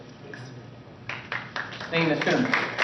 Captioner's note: applause